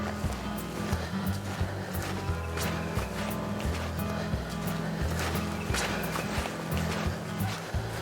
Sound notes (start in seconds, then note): 0.0 footsteps crunching